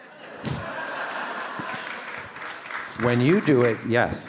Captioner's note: audience laugh